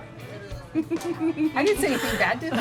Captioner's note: chuckling